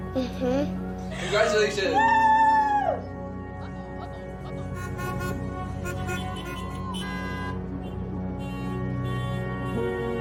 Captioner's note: car horns honking